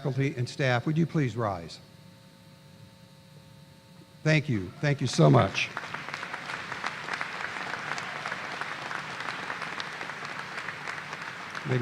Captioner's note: applause